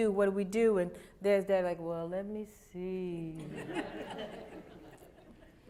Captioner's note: laughter